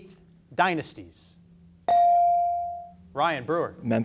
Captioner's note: beep